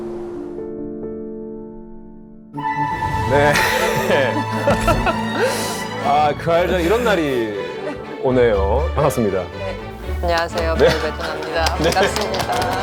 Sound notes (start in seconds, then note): 3.4 laughs